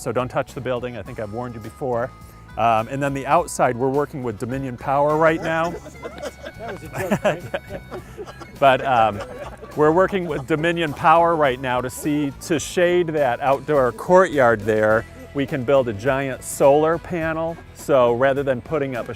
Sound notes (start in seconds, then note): 5.0 laughter